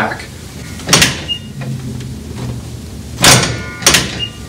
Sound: metal cranking

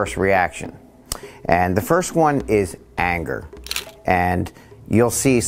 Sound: camera clicks

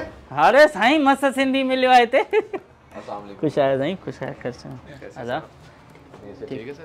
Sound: Sindhi

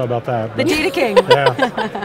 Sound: laughs

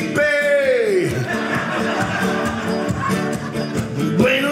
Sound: audience laughing

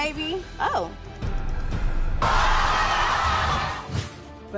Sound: crowd cheering

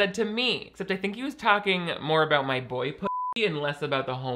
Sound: beep

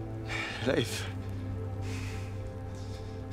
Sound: breathing heavily

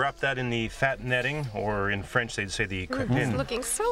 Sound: french

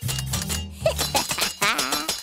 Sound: laughing

